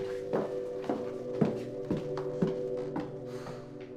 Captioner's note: footsteps clacking; Drew sighs